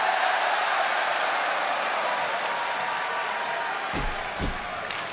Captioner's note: crowd clap and cheer